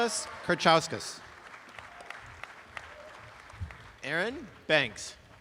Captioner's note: applause